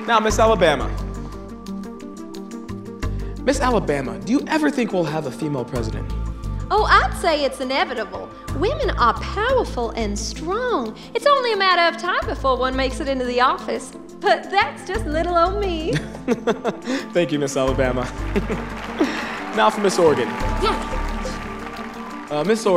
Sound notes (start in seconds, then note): 15.9 laughing